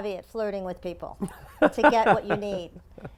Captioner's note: laugh